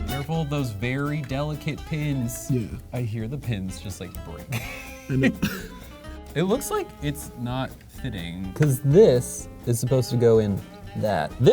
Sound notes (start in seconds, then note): 4.4 laughs